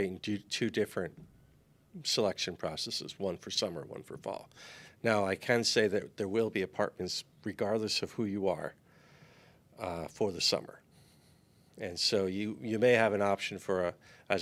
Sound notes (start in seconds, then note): none